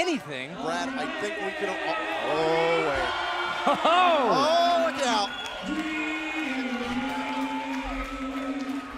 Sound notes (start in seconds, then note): 4.5 crowd cheering